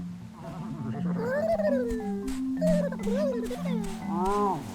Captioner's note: clears throat; bird warbles